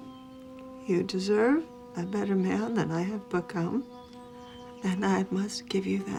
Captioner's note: voice breaking